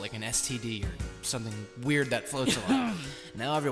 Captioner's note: throat clearing noises